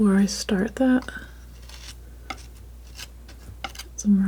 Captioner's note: scratching